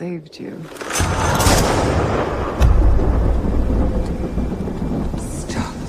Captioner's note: gun shot